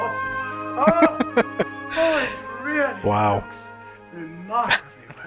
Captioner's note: laughing; laughing